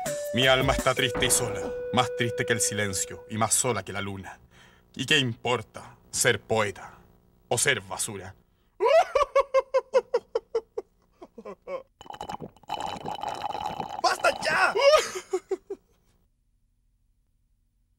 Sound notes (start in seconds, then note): 8.8 crying